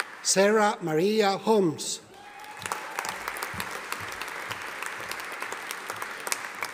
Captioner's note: audience applauding